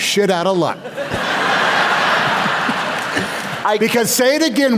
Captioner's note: laughter